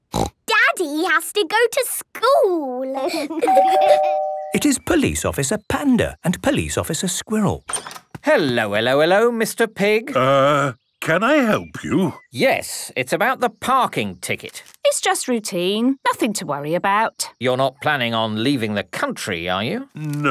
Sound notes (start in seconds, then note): 3.4 door bell ringing